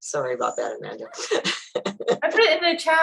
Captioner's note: laughs